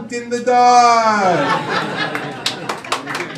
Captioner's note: applause